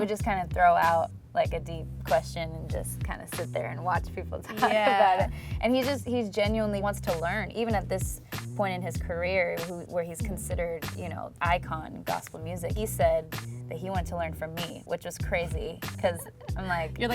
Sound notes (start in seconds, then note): 4.5 laughs